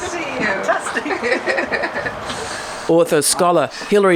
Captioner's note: laughs